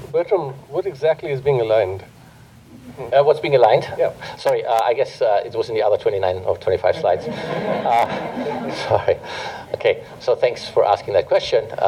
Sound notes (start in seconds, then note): 6.9 laughter